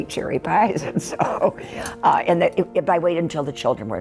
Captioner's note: chuckles